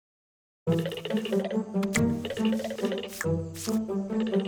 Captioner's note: intermittent rattling